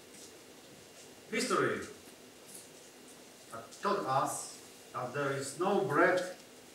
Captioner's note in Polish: Po angielsku